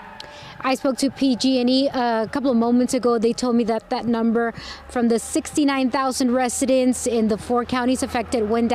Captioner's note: siren wailing